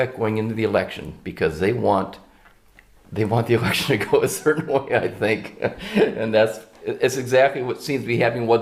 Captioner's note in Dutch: haha